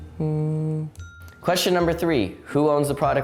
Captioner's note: humming